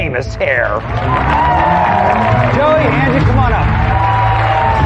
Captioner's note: cheering and applause